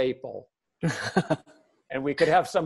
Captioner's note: laughter